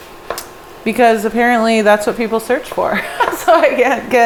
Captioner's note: laughs